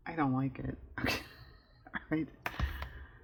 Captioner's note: laughs